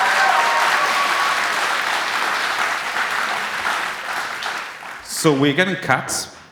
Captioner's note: applause